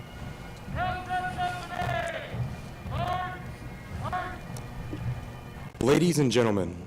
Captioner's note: shouted commands